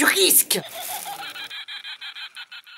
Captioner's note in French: rires de sorcières